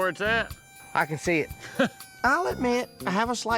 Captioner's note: laughs